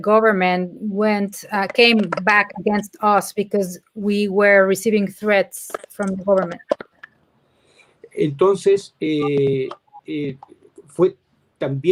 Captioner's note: speaking in Spanish